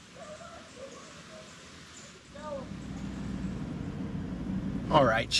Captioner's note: people faintly chattering in woods